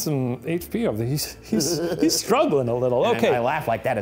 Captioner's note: chuckling